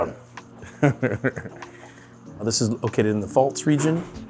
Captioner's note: chuckles